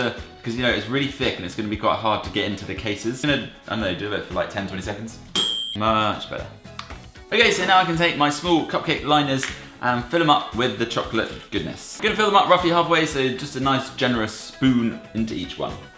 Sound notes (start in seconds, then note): 5.3 ding; 6.7 plop